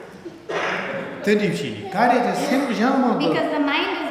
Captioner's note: speaking tibetan